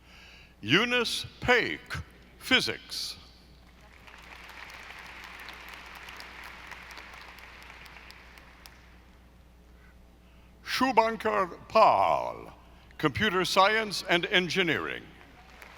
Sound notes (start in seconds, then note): 3.8 audience applauding; 15.2 audience applauding